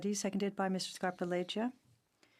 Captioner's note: speaking French